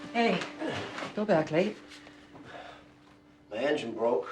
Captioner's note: Cody sighing